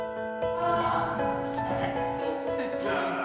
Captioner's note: coughs; laughing